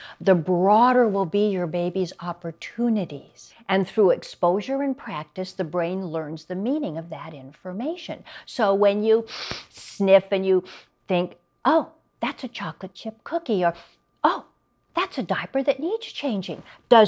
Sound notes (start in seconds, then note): 9.3 sniffs